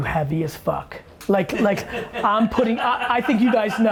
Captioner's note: laughter